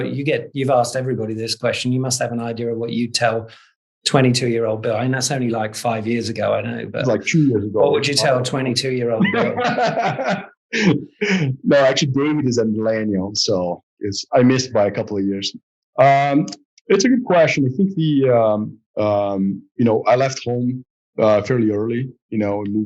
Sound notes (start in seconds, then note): 9.1 laughs